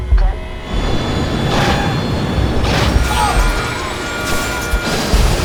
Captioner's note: airplane crashes